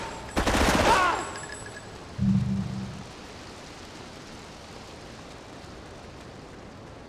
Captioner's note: plane engine roaring